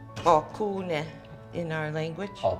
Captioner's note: speaking foreign language